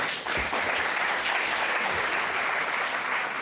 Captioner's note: audience applauds